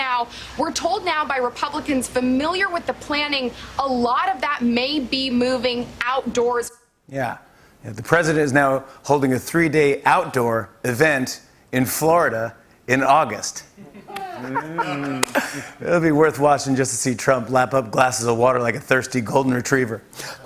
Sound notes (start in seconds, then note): 13.8 light laughter